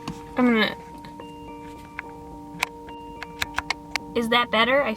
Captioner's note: lens switching